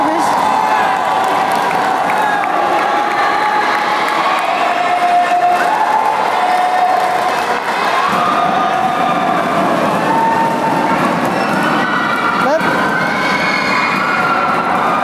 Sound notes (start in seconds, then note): 6.1 applause